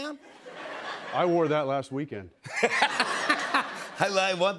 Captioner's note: laughter